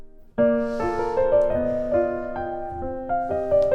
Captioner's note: exhales